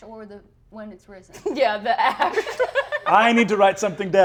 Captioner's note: laughing